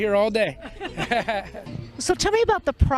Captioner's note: laughter